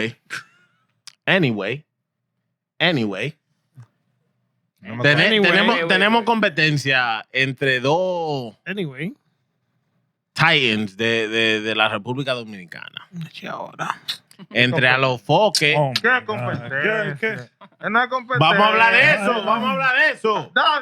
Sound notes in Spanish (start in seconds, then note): 4.7 Hablando en idioma extranjero; 13.2 Hablando en idioma extranjero